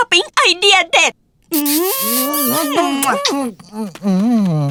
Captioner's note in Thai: เสียงจูบ